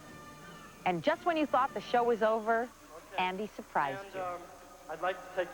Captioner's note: foreign accent